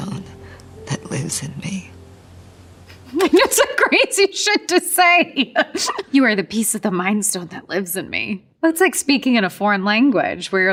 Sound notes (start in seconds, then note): 5.4 laughs